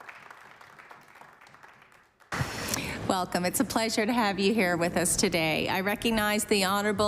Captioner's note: applause